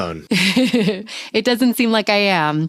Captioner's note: laughing